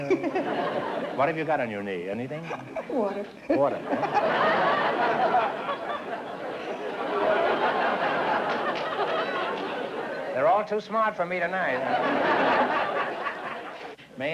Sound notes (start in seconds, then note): 0.0 laughs; 3.4 laughter